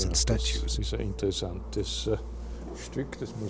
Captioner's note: speaking German